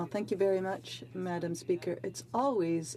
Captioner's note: speaking French